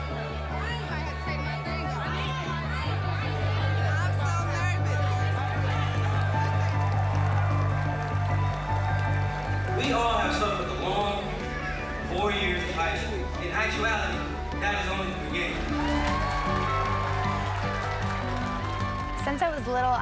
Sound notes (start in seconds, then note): 5.0 clapping and cheering; 15.4 cheering